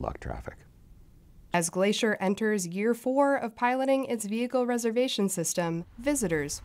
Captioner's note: voice-over